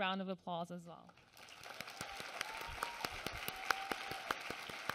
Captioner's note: applause